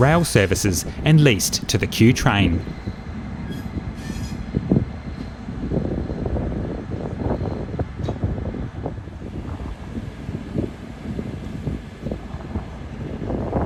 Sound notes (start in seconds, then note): 3.0 train noises